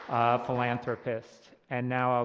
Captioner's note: applause